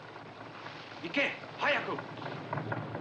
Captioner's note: speaking japanese